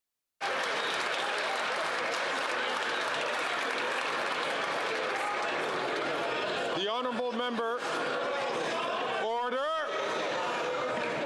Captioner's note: some Applause